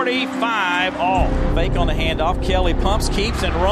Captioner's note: voiceover